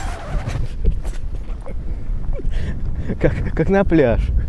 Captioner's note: laughing